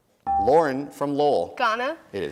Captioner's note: dinging